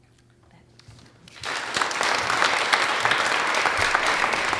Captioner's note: audience applauds